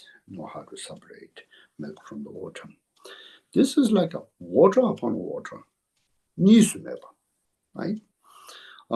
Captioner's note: tibetan